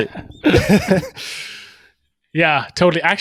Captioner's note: both laughing